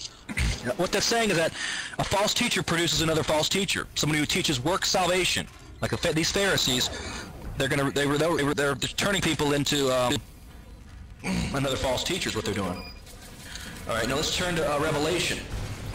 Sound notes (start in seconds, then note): 11.2 clears throat